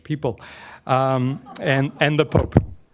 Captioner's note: laughs